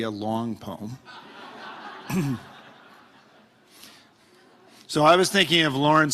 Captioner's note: audience laughing